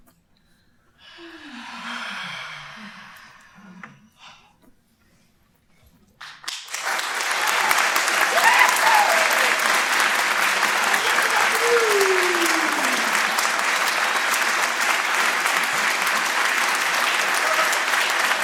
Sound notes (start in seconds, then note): 1.1 collective exhale; 6.2 applause